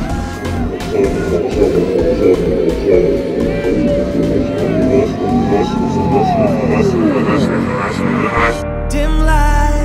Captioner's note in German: verzerrte stimmen